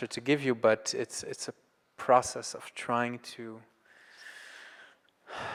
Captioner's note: sighs